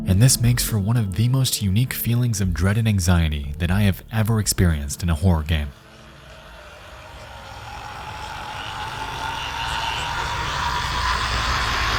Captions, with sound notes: and this makes for one of the most unique feelings of dread and anxiety that I've ever experienced in a horror game. (demon hissing)